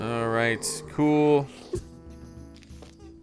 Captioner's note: zombie groaning